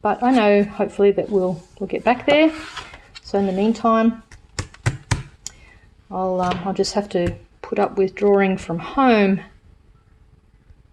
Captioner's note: taps journal